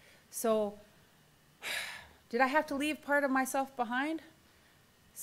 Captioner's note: exhales